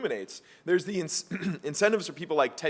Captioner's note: cough